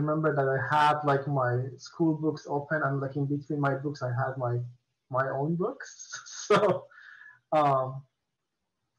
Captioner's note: chuckles